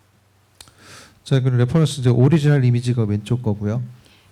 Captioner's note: speaking korean